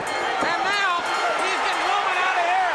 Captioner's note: bell ringing